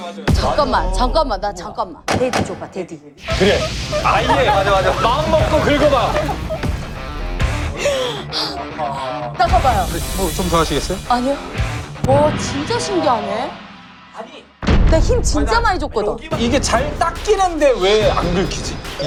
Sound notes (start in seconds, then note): 6.6 scrubbing powerfully